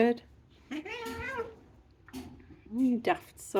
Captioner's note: cats yowling